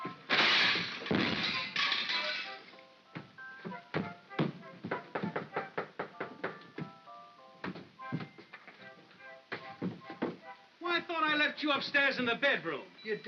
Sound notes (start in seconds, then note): 0.2 smashing & clattering sounds; 2.9 soft whimsical music; 3.6 heavy footsteps up stairs; 4.8 knocking on door; 7.0 soft whimsical music